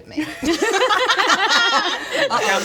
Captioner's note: uh-oh laughter